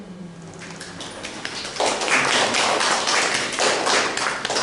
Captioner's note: applause